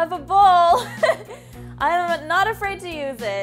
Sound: laughs

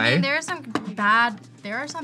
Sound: none

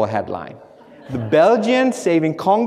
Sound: audience laughs

